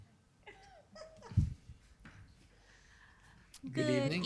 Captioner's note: chuckles